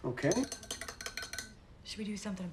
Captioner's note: spoon clinking